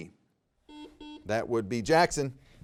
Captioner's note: buzzer beeping